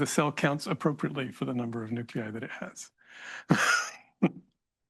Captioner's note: laughs